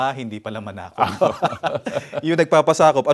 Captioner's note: both laughs